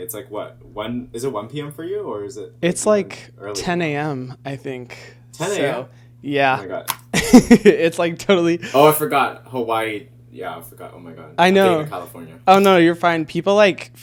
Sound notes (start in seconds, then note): 7.2 laughing